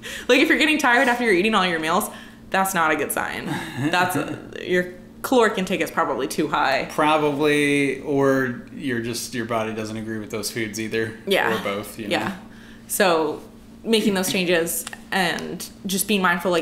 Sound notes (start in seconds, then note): 3.5 laughter